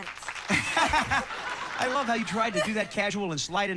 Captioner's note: laughing